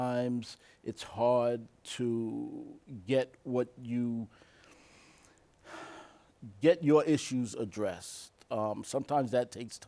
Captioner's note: sighs